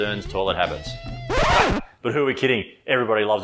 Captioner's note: record scratch